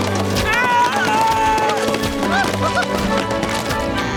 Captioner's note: yelling